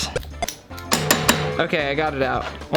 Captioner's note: lock banging